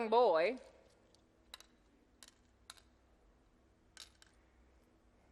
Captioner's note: game piece clacks